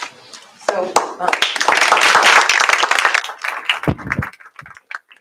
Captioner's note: applause